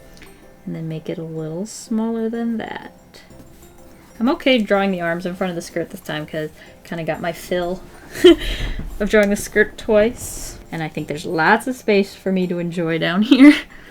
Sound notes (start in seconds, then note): 8.0 laughs